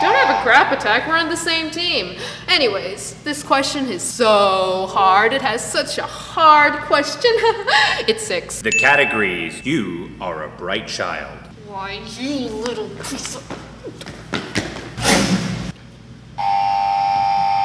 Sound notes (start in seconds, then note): 15.0 crash